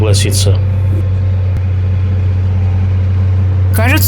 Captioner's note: engine noise